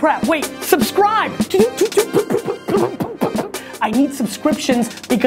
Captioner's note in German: Techno Blasen knallen